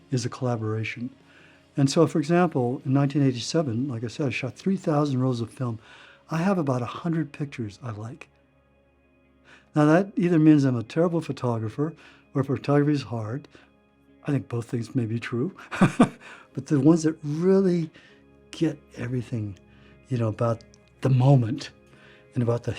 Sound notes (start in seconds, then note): 15.7 laughing